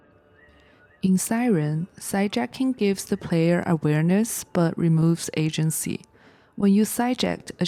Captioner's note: siren